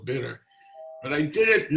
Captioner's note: doorbell rings